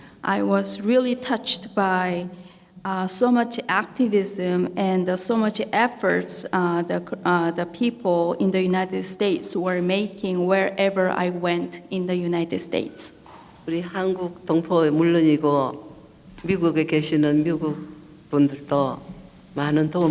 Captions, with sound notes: - I was really touched by so much activism and so much efforts the people in the United States were making wherever I went in the United States. (speaking foreign language)